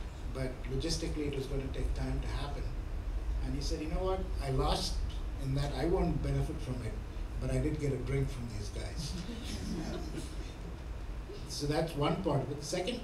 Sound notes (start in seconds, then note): 9.0 laughing